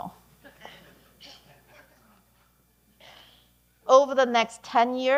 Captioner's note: audience laughing